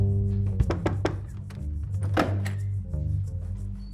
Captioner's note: loud knocking